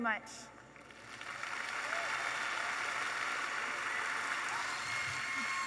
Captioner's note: audience applauding